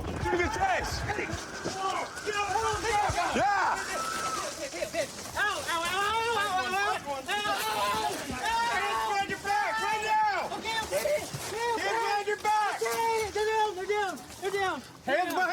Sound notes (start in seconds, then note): 2.0 officers yelling